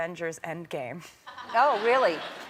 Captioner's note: crowd members laughing; laughing